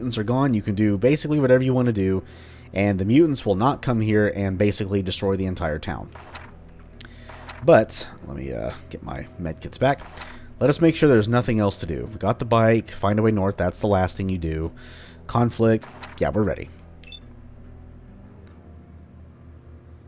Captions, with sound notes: are gone, you can do basically whatever you want to do, and the mutants will not come here and basically destroy the entire town. *Journal opens/closes* But -- let me uh, get my medkits back -- let *Journal opens* us make sure there's nothing else to do: Got the bike, find a way North, that's the last thing you do, conflict, yeah we're ready. *Journal closes*